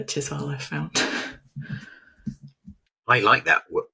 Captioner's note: chuckles